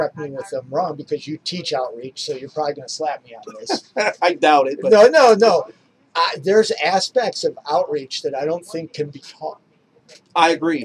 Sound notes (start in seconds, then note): 3.4 laughs